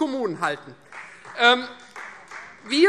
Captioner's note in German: Beifall Freie Demokraten